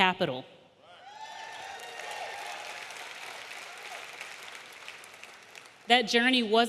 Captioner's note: audience cheering; audience applauding